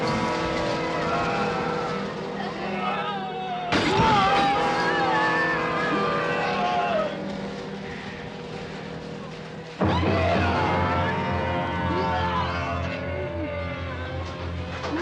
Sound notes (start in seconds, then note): 0.8 shouting, groaning; 9.8 screaming